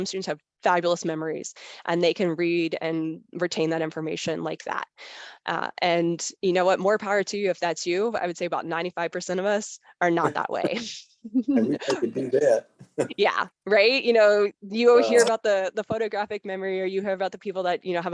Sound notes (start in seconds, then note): 11.3 chuckles